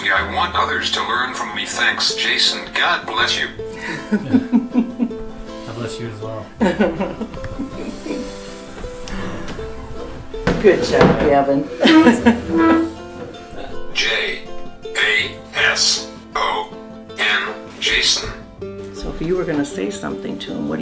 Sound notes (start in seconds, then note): 3.7 giggling; 11.7 laughing